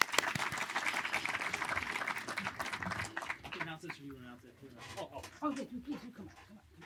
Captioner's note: applause